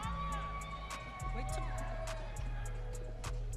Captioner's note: audience cheering